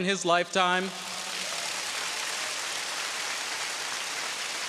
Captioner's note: audience cheering